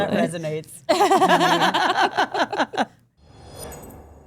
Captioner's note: group laughs